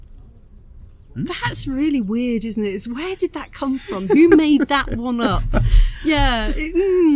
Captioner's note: laughing